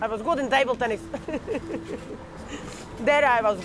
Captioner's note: laughs